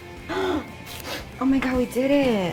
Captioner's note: gasps